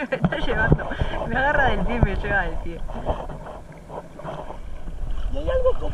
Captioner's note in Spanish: risas